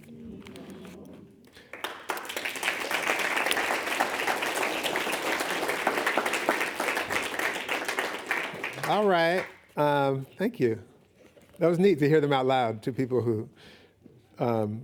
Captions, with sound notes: -[clapping] -All right. Thank you. That was neat to hear them out loud to people who